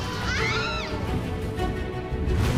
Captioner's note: kathryn squeals